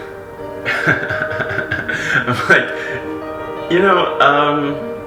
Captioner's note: laughing